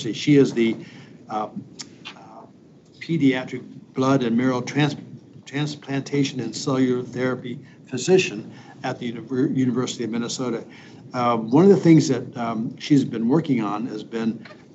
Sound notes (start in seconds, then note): none